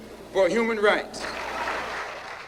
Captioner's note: audience applauding